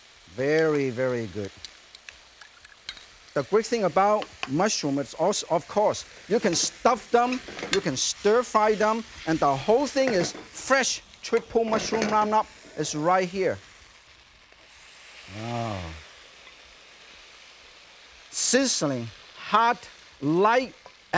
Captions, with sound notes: Very, very good. (stirrer clinking) The great thing about mushroom, it's, of course, you can stuff them, (pan rattling) you can stir fry them, and the whole thing is (pan clinks) fresh triple mushroom roundup, (pan rattles) is right here. (mushrooms sizzling) Ohh. Sizzling, hot, light,